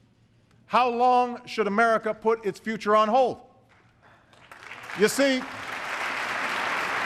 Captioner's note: applause